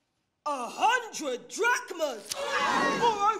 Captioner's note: crowd screams